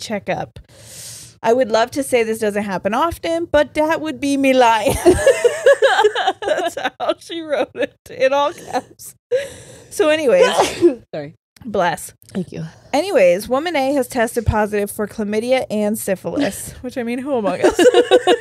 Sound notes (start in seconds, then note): 4.9 all laughing; 10.4 sneezes